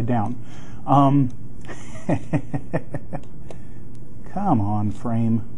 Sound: laughing

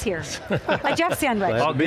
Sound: laughing

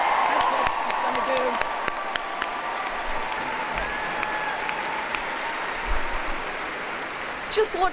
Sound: applause

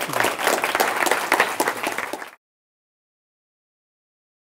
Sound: applause

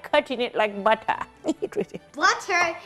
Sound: giggles

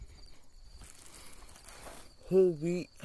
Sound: crumpling Of The Bread Bag

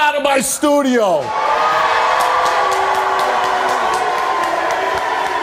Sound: audience cheers and boos

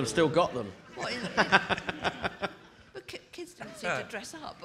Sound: audience laughing

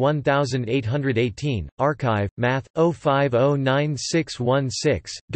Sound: German

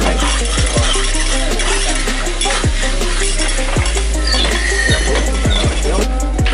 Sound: cutlery clanging together while meat is sizzling

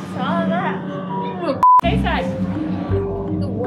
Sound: beep

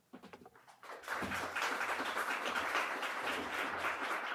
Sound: applause

